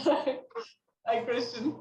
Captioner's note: laughing